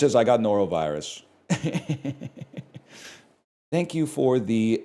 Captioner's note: chuckles